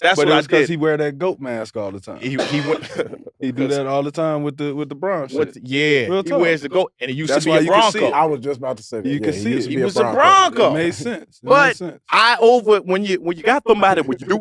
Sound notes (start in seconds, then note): 2.2 laughs